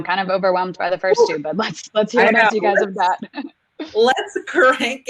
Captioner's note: laughing